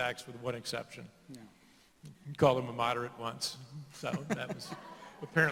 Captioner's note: laughter